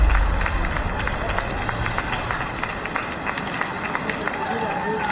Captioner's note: audience applauds